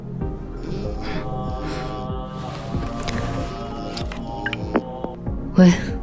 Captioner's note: Zhao Yu's bone-chilling ringtone sounds